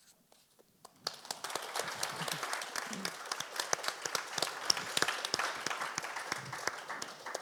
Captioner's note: audience applauds; panelists applaud